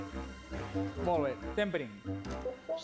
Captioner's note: non-english